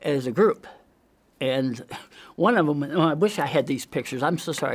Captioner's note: coughs